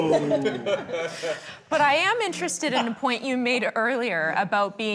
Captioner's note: panellists groaning, laughing